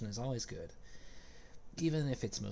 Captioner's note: vellumental gasp